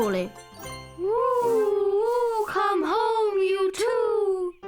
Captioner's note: mother owls hooting